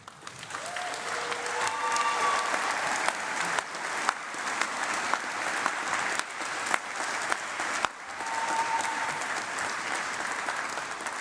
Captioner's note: applause